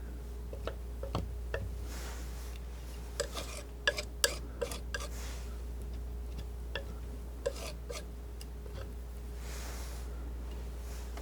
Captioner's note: scratching